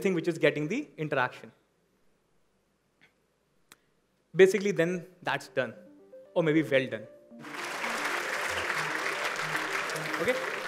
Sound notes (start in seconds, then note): 7.4 applause